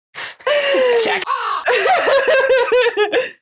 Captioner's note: caw